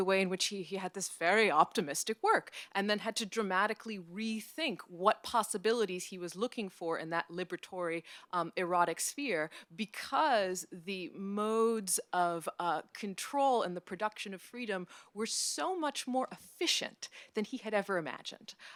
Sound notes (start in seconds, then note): none